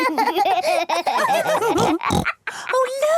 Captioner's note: giggling; laughs, snorts